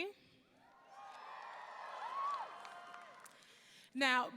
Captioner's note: audience cheering